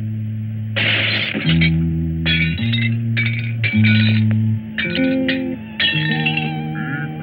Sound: glass breaking

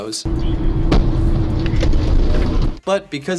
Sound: tire bursting

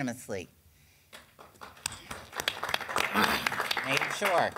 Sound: clapping

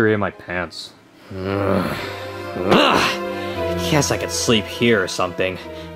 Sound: grunts

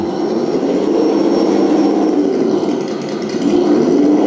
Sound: engine revving

